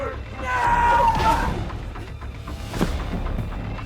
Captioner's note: Skull-Faced Assailant groaning over thudding strikes; Sue screams; strike thudding; Sue thuds to the ground